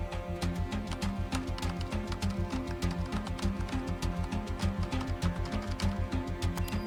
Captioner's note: keyboard typing